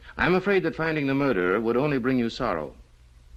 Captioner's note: none